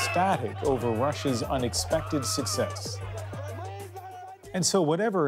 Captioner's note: cheers and Applause